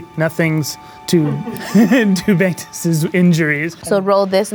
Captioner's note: laughing